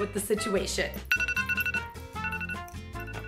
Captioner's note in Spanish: sonido de la alarma